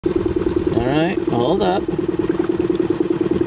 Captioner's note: engine sputtering